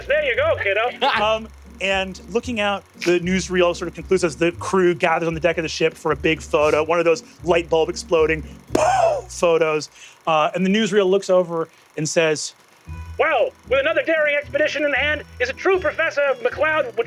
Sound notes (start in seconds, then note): 8.6 mimics bulb exploding